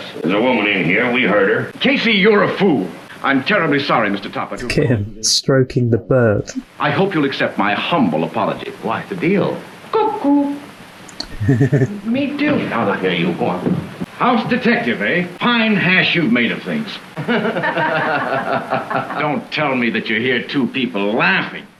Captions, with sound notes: There's a woman in here, we heard her. - Casey, you're a fool. I'm terribly sorry, Mr. Topper, I hope you'll accept my humble apology. - Why, it's a deal. - Cuckoo! - Uh, m-me too. - Get out of here, you moron. - House detective, eh? (door slams) A fine hash you've made of things. (laughing behind door) Now don't tell me that you hear two people laughing.